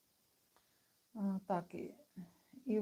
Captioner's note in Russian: none